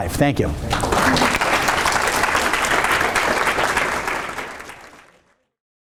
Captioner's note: audience applauding